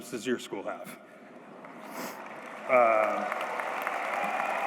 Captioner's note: applause